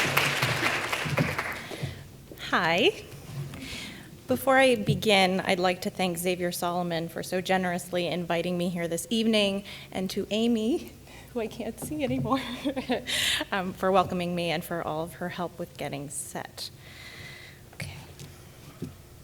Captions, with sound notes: - Hi. Before I begin, I'd like to thank Xavier Salomon for so generously inviting me here this evening, and to Aimee, who I can't see anymore (laughs), for welcoming me, and for all of her help with getting set. Okay.